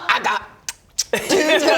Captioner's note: mwah mwah